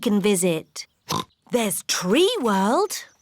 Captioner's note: oinks